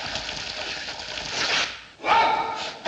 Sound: ripping sound

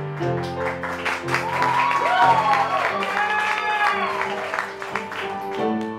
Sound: applause

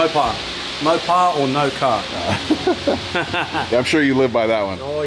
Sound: laughs

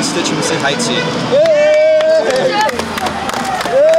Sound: cheers

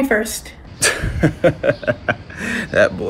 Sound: Aaron laughs

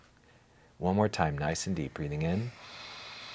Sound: inhalation sounds

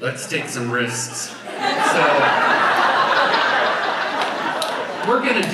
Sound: audience laughs

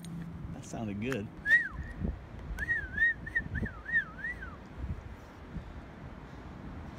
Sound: whistling

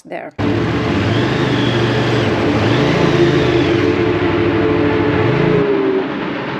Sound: train whistle blows

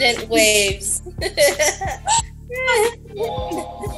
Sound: laughs

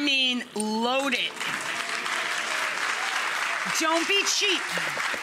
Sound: audience applauding and cheering

